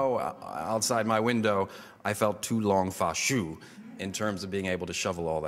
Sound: foreign language

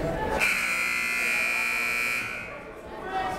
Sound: buzzer

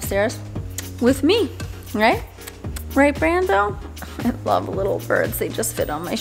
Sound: pecking lips

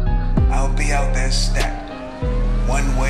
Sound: voice echoes

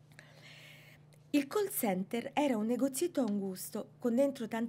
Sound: speaking italian

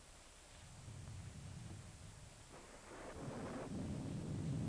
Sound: thunder rumbling

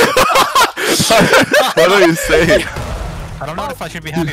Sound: men laughing

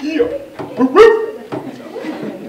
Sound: bark noise from vice principal

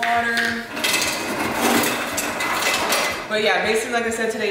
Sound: ice falling

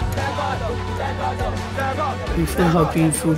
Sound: inspirational music continues; team chanting

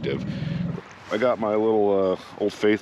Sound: boat engine idling

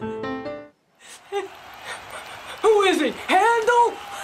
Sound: crying noises

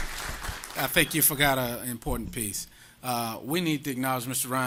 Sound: applause

